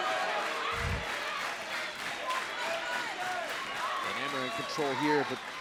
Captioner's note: crowd cheering